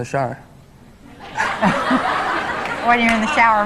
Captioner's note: audience laughs